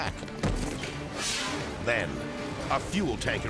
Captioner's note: air whooshes